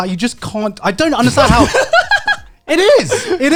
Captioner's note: laughs